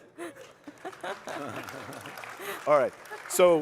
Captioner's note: applause